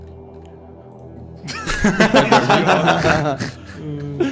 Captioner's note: everyone laughs